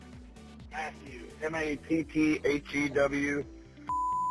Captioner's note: male Voice; beep